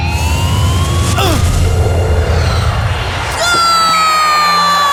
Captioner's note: ball whooshing